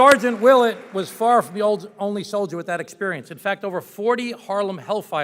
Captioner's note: applause